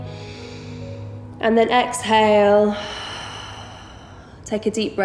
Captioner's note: heavy breathing